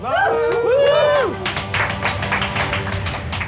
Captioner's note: cheers; applause